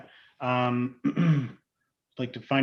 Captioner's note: clears throat